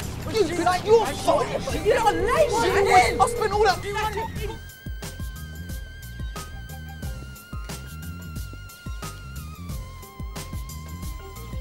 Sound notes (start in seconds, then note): 2.0 phone ringing